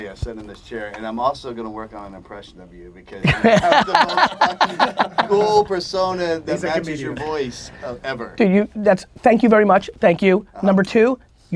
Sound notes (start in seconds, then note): 3.2 Gary laughs